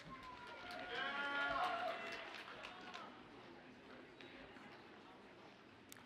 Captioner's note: audience cheers and applauds faintly